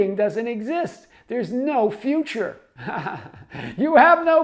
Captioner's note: laughs